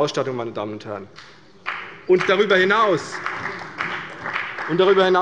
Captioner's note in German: Beifall bei der CDU und dem BÜNDNIS 90/DIE GRÜNEN